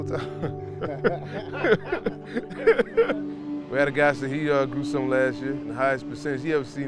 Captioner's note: laughs